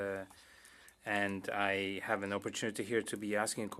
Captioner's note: speaking French